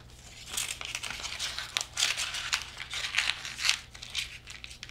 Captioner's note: crumpling paper